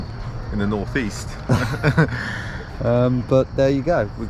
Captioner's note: both laugh